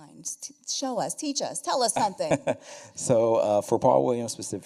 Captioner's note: chuckles